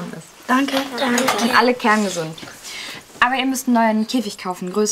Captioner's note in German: none